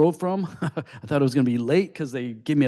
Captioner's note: laughs